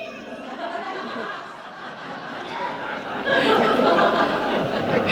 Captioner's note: studio audience laughing